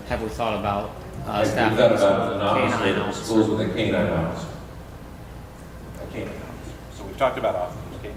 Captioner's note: none